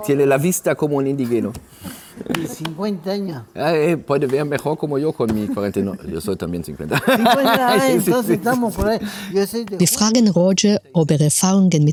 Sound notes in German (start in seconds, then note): 1.1 gelächter